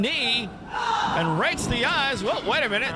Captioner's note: yelling